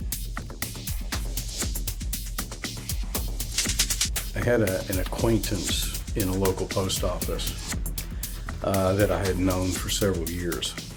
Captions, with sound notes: [energetic music] [rhythmic clicking] I had a-an acquaintance in a local Post Office, uh, that I had known for several years,